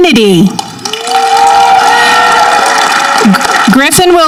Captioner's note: audience clapping